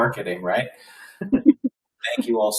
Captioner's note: people laughing